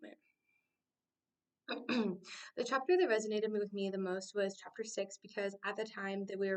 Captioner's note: clears throat